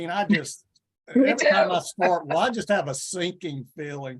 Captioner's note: chuckles